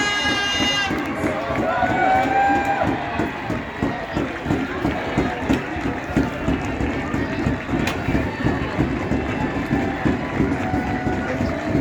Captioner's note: even more cheering, clapping, whistling and drumming